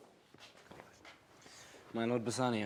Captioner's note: whispers